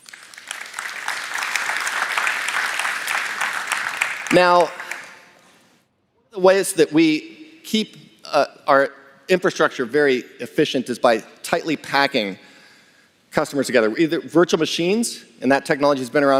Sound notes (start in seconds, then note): 4.1 applause